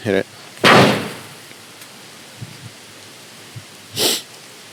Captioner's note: tree knocker bangs